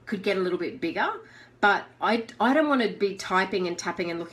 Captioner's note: none